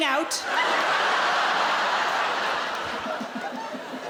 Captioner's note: audience laughing